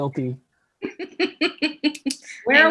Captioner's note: laughs